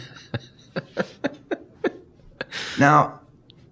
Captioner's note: laughing